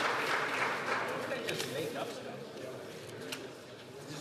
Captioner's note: some Applause